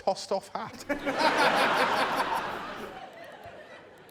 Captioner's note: laughter